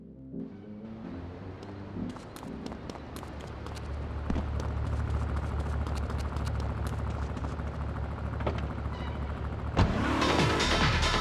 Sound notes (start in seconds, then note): 0.7 tires screeching; 10.3 upbeat music